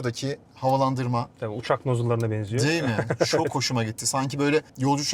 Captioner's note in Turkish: kahkaha